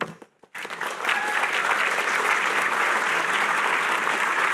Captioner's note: applause